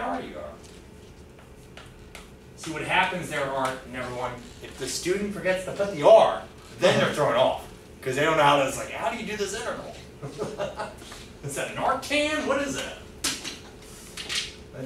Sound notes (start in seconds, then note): 10.2 laughing